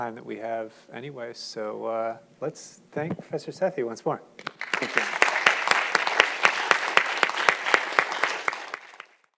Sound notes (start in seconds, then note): 4.4 audience applauding